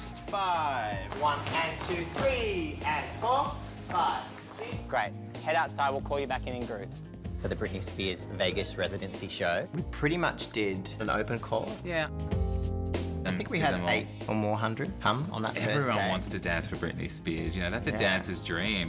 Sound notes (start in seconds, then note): none